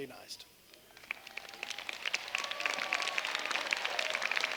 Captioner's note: applause